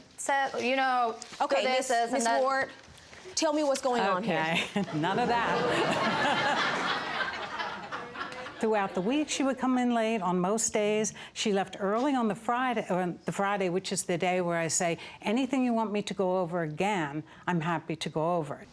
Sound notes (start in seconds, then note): 4.2 laughs; 6.4 audience laughs